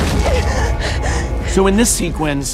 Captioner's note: Max gasps